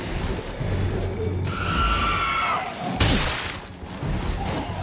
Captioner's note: zombies growling; enemies shrieking; zombies growling